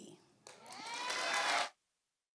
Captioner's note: cheering and applause